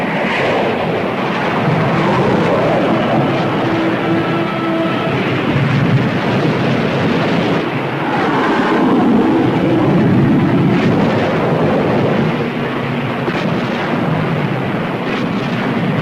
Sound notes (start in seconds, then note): 1.1 water splashes; 2.7 plane whooshing; 4.8 explosion booms; 6.3 guns firing; 8.2 plane whooshing; 10.7 explosion booms; 10.7 water splashes